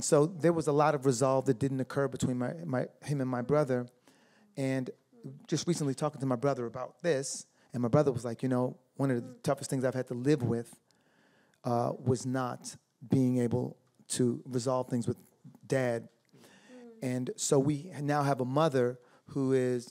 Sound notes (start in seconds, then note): none